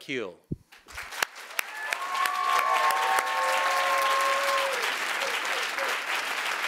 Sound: audience applauding; audience cheering

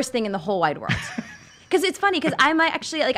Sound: laughing

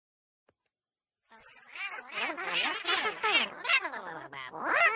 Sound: chattering continues

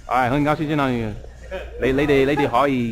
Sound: mandarin

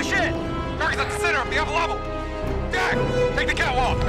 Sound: over radio

